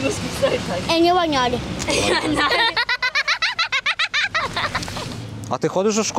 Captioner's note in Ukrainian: сміються